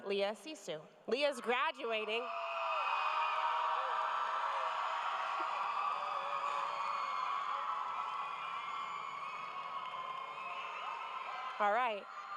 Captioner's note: cheers and applause